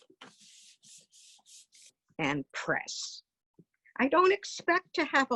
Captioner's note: paper smoothing